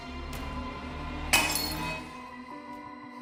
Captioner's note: glass shatters